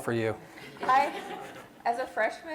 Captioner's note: laughter